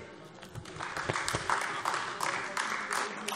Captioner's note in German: Beifall AfD